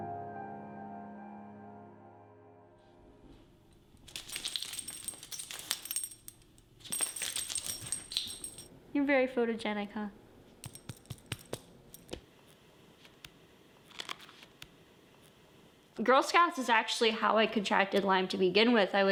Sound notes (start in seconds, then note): 3.8 collar clattering